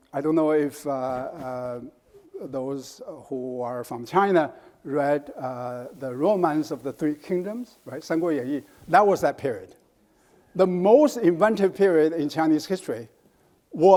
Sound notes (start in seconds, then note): 8.3 speaks in foreign language